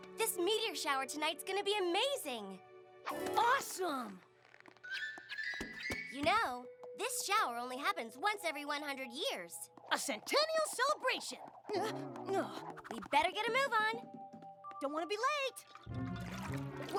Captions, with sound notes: THIS METEOR SHOWER TONIGHT IS GONNA BE AMAZING! AWESOME! [ WHIP! WHIP! WHIP! ] YOU KNOW, THIS SHOWER ONLY HAPPENS ONCE EVERY 100 YEARS. A CENTENNIAL CELEBRATION! [ WARBLE! ] UH, UNH! WE BETTER GET A MOVE ON. DON'T WANT TO BE LATE! [ SLOSHING ]